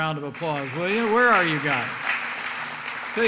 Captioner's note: applause